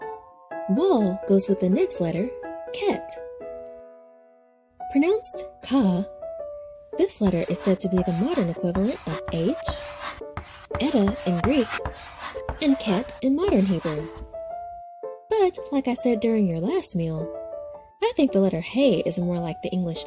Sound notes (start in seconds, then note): 5.5 pensive piano music; 9.4 chalk scratching